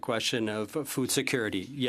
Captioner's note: speaking French